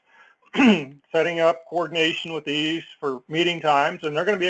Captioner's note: cough